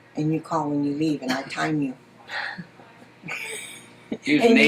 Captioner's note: laughter